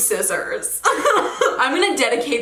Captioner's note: chuckles